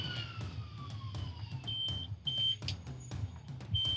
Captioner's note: beeping